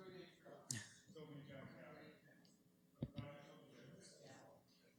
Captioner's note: background chatter